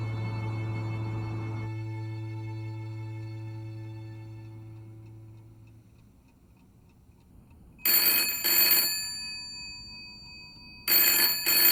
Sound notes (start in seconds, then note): 7.8 phone rings